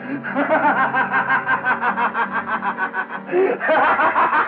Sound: laughing

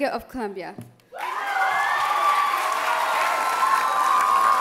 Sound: loud applause and cheers

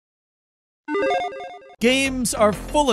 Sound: electronic video game bleep

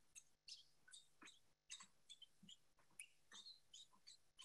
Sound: bird chirping

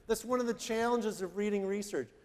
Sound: none

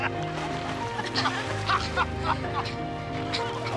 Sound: laughing; water splashing

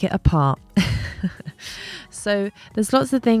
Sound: chuckles lightly

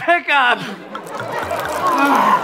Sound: pouring; audience laughter

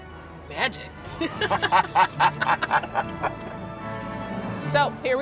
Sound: both laughing

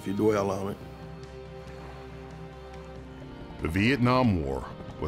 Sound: water sloshing

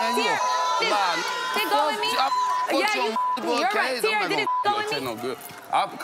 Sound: beep; beep

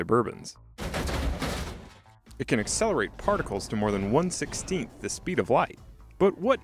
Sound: Suburbans crash

